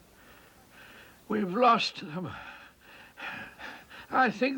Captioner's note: panting